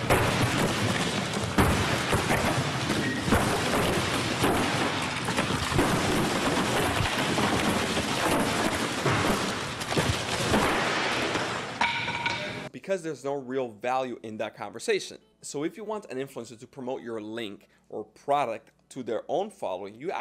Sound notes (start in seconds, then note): 0.0 slams door open; 1.1 kicks door; 1.3 punches door; 4.1 breaks door; 5.8 kicks door